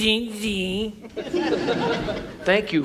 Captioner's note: audience laughs